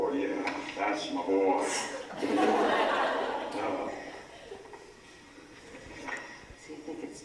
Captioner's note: laugh